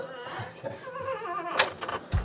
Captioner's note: door squeaking